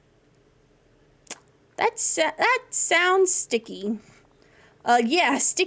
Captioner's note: smacks Lips